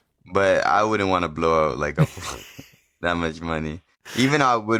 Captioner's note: laughs